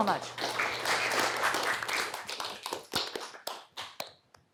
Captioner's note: applause